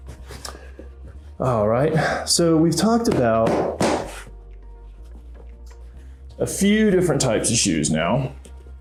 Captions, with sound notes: All right, so, we've talked about (hand slapping) a few different types of shoes, now.